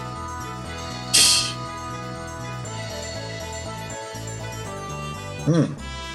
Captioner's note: laughs softly